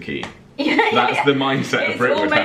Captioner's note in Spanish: laughing